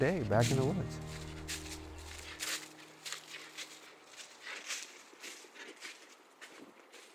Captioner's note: leaves rustling